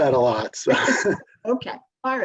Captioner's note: chuckles